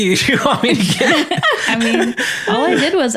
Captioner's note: laughs